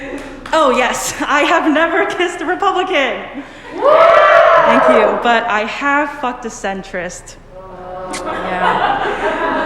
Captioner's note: cheers; sad noises